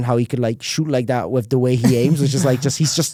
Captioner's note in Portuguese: risos